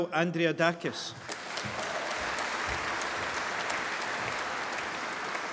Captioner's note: applause